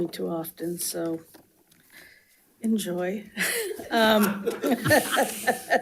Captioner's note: laughs